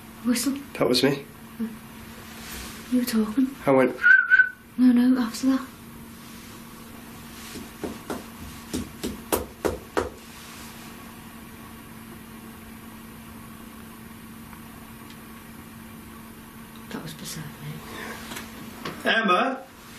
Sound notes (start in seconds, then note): 4.0 whistles; 9.5 knocks on wall